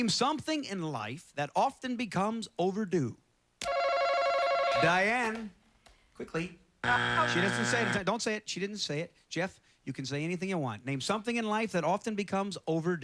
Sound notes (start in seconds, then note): 3.7 chime; 6.8 buzzer